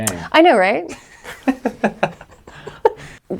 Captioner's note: laughs